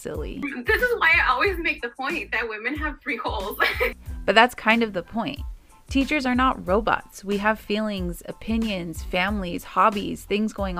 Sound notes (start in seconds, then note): 3.6 laughter